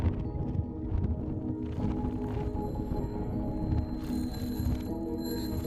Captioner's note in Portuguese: campainha de bicicleta tocando